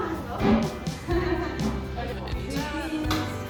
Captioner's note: both laugh